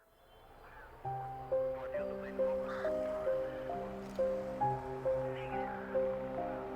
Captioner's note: police radio chattering; solemn music